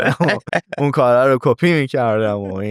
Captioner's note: laughs